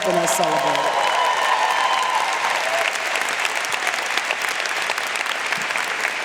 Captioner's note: audience cheering and applauding